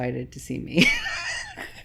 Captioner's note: laughs